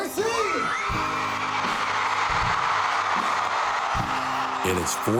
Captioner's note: crowd cheering